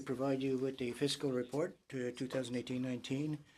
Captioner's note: speaking French